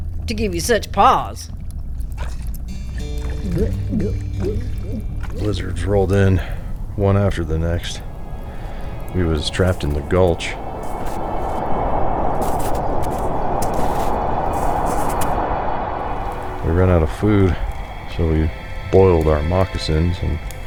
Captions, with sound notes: To give you such pause. [gulps whiskey] Blizzards rolled in, one after the next. We was trapped in the gulch. We ran out of food so we boiled our moccasins.